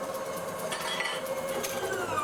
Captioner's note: whirring, clinking; whirring ends